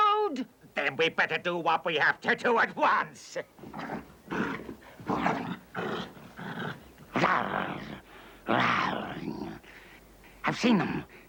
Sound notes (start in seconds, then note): 4.2 snarling; 6.0 growling